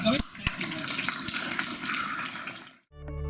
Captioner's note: applause; upbeat music